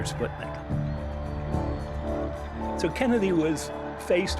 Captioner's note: crowd cheering